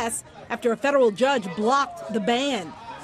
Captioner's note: cheers and applause